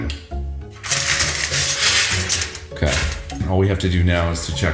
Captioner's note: foil rustling